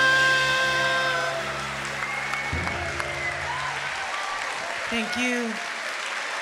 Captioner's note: audience applauding; audience cheering